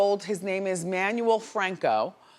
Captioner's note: none